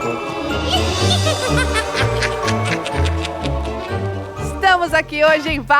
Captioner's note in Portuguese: risada